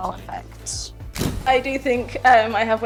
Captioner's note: camera shutter clicks